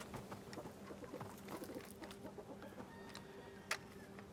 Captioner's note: hens clucking